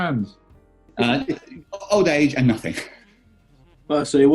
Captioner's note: chuckling